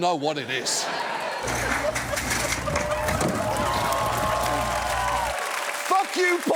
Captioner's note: studio audience cheers, applauds